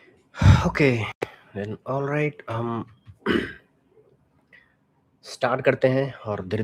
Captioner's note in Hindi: गला साफ़ करने की आवाज़